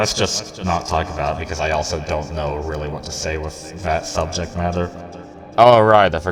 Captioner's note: echoed